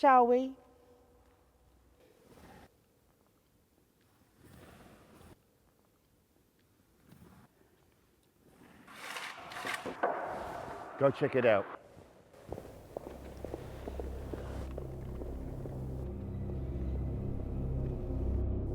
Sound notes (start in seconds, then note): 8.6 wood scraping; 12.8 dramatic music